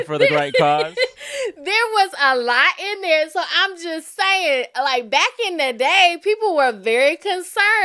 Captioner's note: laughter